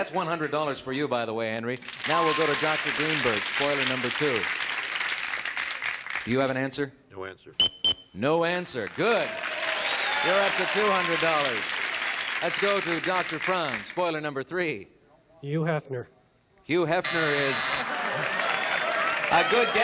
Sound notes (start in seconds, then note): 10.8 beeps; 11.1 cheering and applause